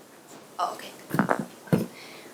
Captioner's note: adjusting microphone